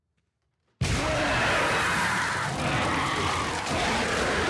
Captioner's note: monster squealing